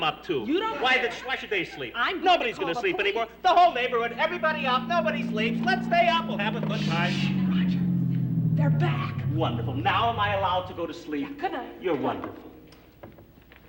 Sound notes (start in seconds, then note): 6.4 car approaches